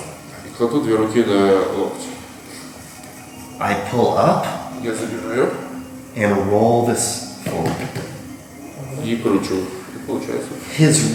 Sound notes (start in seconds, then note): 0.2 speaking in a foreign language; 5.1 speaking in a foreign language; 8.4 speaking in a foreign language